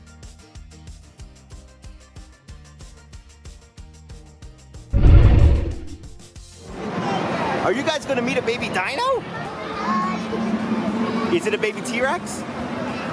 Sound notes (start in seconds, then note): 4.9 dinosaur roars